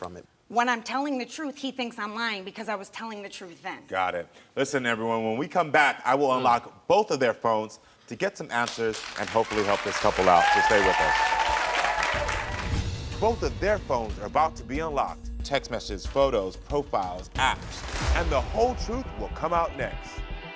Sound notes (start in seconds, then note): 11.2 crowd cheering; 11.2 crowd clapping; 20.3 dramatic music